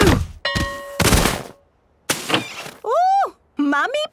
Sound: exclaiming and grunting; bell ringing

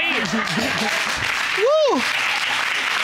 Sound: applause

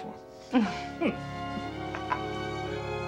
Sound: chuckling

